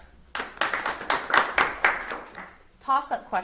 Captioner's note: audience applauds